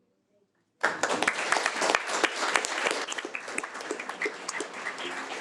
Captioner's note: audience applauding